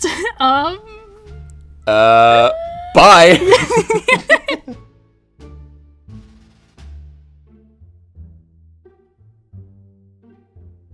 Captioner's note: laughter